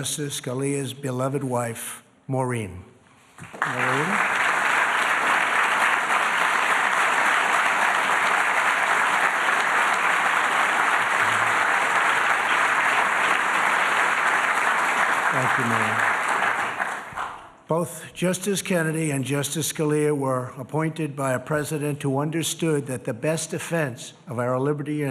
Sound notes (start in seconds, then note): 9.9 applause